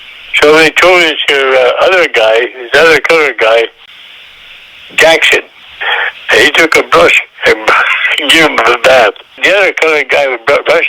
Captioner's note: laughs